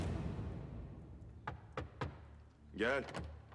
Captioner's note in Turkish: Kapı tıklanma sesi; Kapı açılma sesi